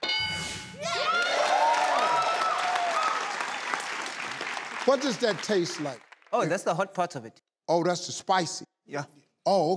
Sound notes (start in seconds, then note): 0.0 ding indicating correct answer; 0.8 cheering